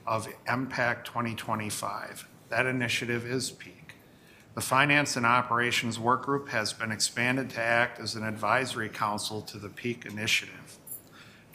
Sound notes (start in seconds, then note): none